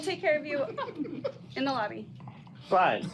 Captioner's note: customers laughing